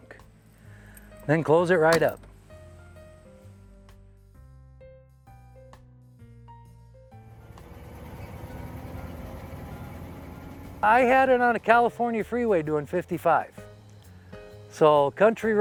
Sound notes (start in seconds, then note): 3.6 gentle music; 7.2 engine whirring